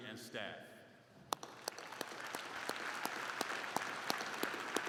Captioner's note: all clapping